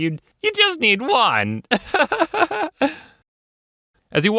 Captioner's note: chuckles